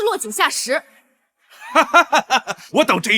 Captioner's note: laughs